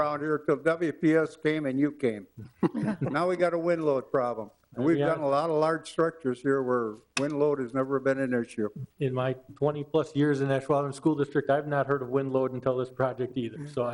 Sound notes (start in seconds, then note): 2.4 laugh